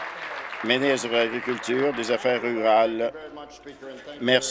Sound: applause

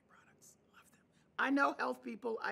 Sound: whispering

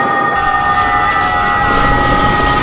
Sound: screaming

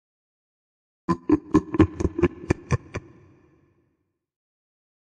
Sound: sound of evil laugh

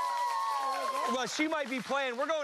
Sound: cheers and applause

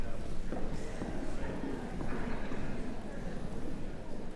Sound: background conversations

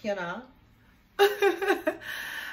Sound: laughs

